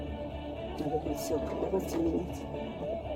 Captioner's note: speaking in foreign language